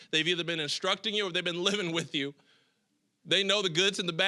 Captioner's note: chuckling